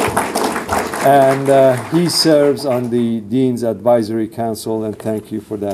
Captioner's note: applause